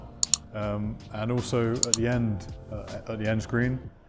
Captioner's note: clicking